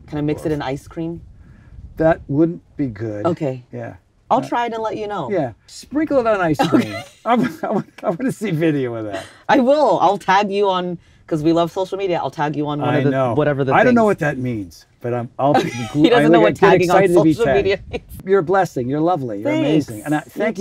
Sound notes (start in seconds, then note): 15.5 laughs